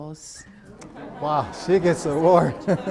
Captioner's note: participants laughing